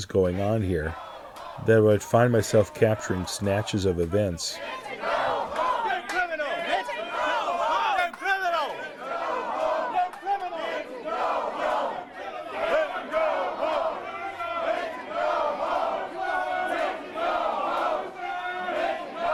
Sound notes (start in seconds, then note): 4.1 crowd chanting; 9.1 crowd chanting; 14.1 crowd chanting; 19.1 crowd chanting